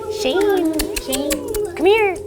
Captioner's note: make kissing noises